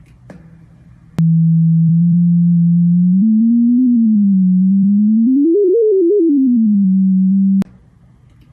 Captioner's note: sonification of graph